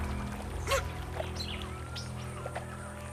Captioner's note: jaguar emits high-pitched grunts